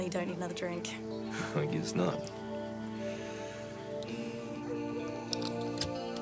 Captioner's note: laughs; soft instrumental music